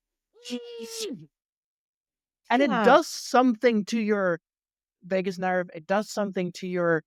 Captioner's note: muffled scream